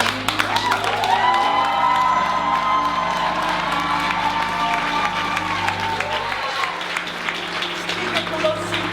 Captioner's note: cheering